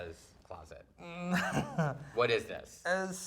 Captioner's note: laughing